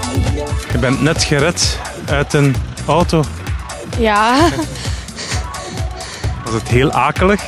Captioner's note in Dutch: lacht